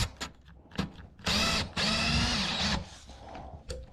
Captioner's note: drill whirring